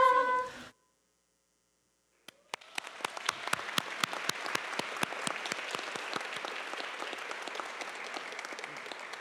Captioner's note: applause